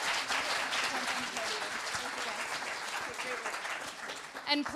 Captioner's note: applause